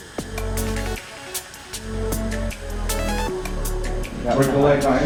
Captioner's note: machine hissing